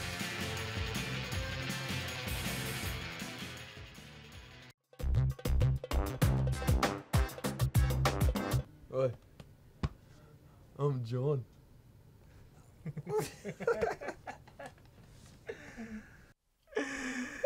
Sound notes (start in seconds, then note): 5.0 uptempo electronic music; 12.8 both laughing